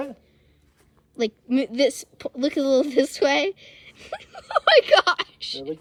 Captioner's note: laughing